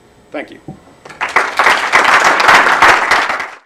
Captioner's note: applause